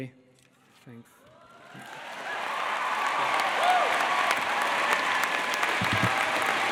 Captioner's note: applause